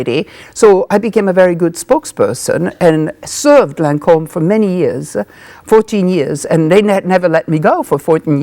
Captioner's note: none